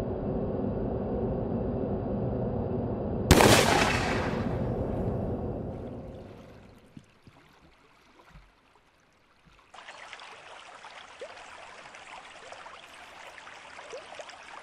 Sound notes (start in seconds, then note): 3.3 gunshot; 5.7 creek flowing